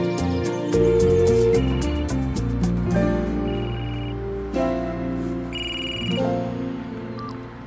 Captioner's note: cell phone sounds